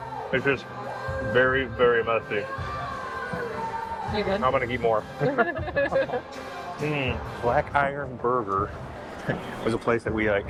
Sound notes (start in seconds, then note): 5.2 laughter